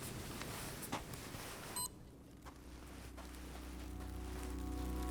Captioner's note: barcode beeps; footsteps thudding